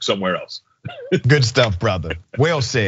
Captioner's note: laugh